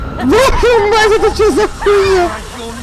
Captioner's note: swearing